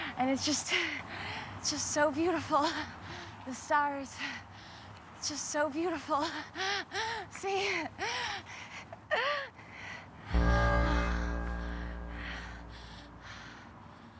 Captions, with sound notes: and it's just so beautiful. The stars, it's just so beautiful. See. (laughing) (pulsing electronic music)